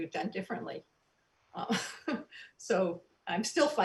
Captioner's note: soft giggles